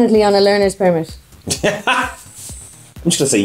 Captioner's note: laughs